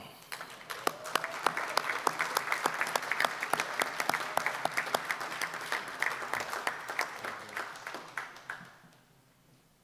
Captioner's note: applause